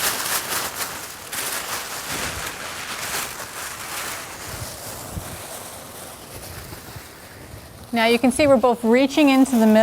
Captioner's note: paper rustling